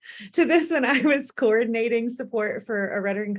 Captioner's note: laughter